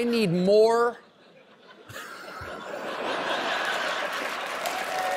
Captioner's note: laughter; applause